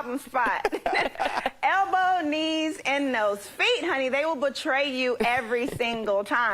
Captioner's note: laughter